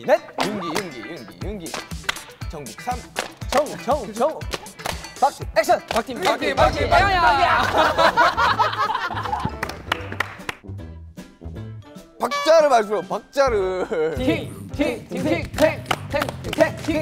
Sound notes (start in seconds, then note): 10.2 kekekekeke